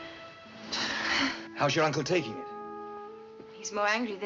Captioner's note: both Sigh